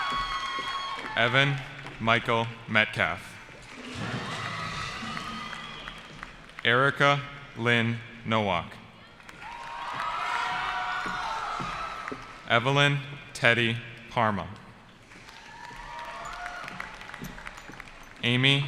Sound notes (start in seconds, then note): 0.0 cheering; 3.7 cheering; 9.0 cheering; 15.1 cheering